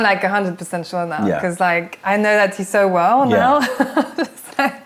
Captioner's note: laughter